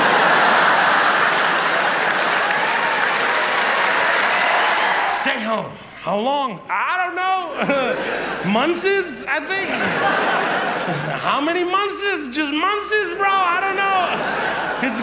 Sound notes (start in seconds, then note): 0.0 audience laughs; 2.2 audience applauds and cheers; 10.2 audience laughs